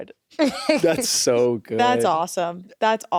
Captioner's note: laughs